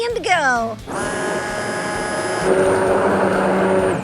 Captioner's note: blender whirring